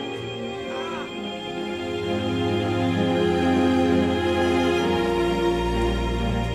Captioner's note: alarm blaring; boys groaning